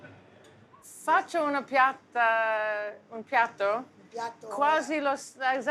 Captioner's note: speaking Italian